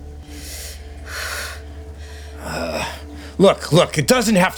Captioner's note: heavy breathing